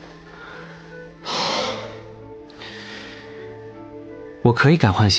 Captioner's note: Li Yuze lets out a sigh of relief